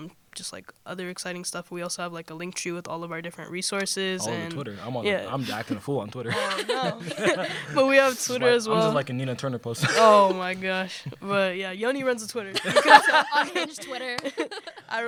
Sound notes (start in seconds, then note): 6.2 laughter; 9.8 laughter; 12.5 laughter